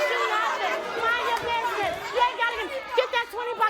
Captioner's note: yelling